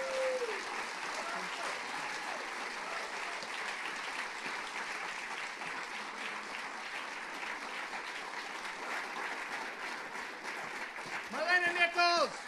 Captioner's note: applause